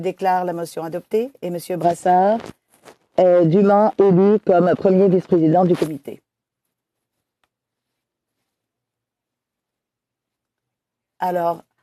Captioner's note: speaking French